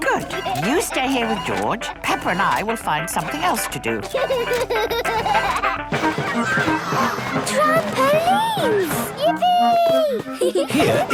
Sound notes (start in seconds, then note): 0.2 giggling; 3.9 George giggles; 6.7 gasps; 10.2 giggling